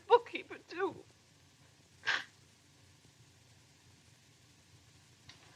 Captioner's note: sobs